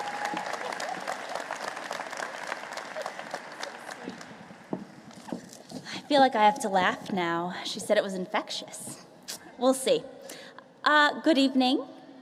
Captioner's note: applause